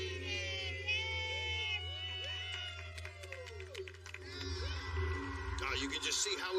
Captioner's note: all cheering